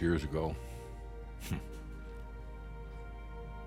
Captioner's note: choking up